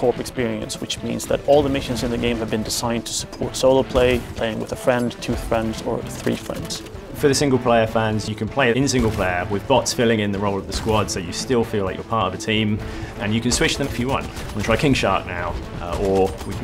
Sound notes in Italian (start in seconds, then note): none